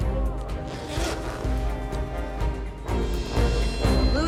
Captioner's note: zipper sliding